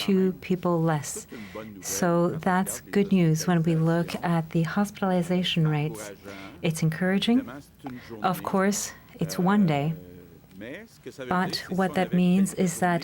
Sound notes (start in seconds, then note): 1.2 speaking French